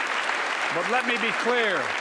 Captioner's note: applause